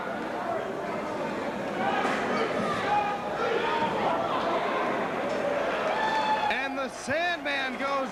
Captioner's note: crowd cheering